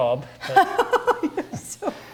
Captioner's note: laughing